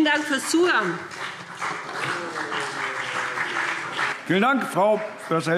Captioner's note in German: Beifall BÜNDNIS 90/DIE GRÜNEN und CDU